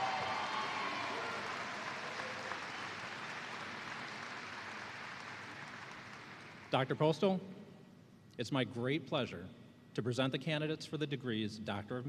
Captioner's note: cheers and applause